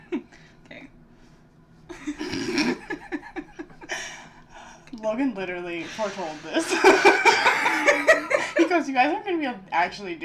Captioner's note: giggles